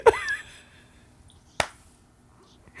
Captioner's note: laughing